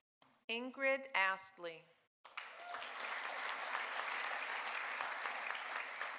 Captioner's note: audience applauding